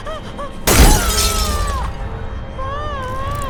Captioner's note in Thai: เสียงชนกระจก